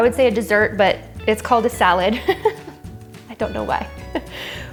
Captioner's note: laughs; laughs